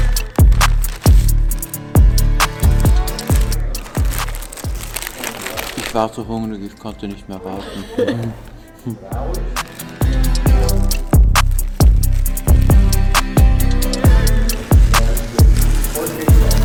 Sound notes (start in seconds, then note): 7.6 laughter